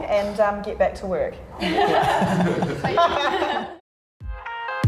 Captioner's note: laughter